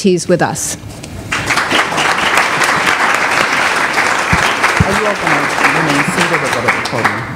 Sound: applause

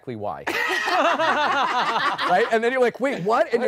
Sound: laughing

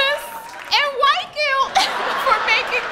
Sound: audience laughing

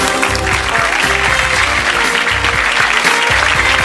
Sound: audience claps

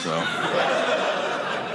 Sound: audience laughing

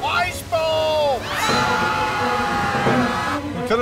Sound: screaming

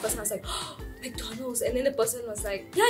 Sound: gasp

